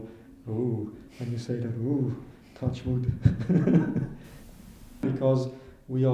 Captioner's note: laughs